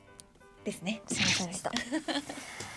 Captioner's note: laughs